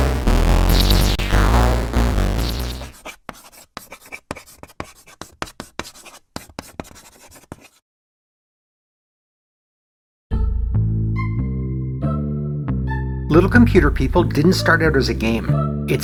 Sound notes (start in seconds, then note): 0.0 bassy chiptunes music; 3.9 writing on a chalkboard; 10.6 funky bass line